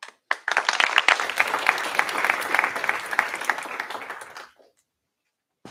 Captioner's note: applause